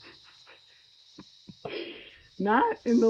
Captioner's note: laughs